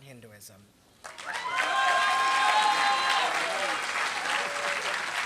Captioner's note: applause